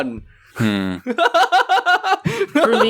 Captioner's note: laughs